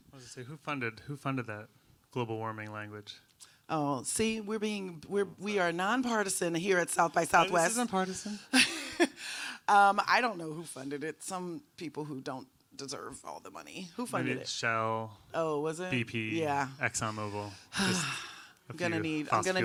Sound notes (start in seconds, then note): 8.8 laughs